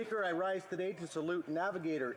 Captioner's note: applause